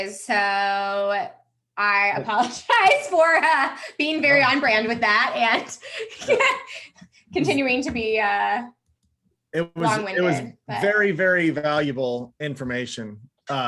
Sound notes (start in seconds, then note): 5.3 laughs